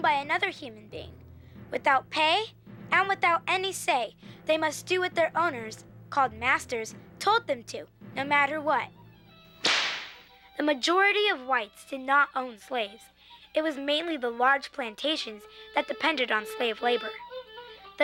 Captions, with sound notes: another human being, without pay, and without any say, they must do what their owners, called master, told them to, no matter what. (whip crack) The majority of whites did not own slaves. It was mainly the large plantations that depended on slave labor.